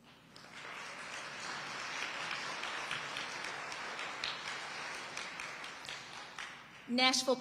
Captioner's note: audience applauding